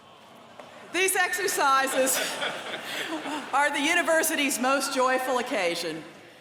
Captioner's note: laughter